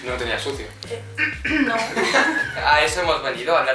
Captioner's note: fake cough